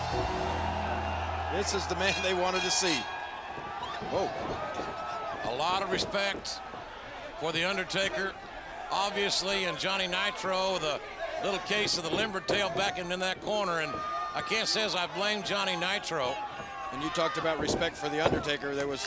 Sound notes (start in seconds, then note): 1.7 bell tolls; 1.9 bell rings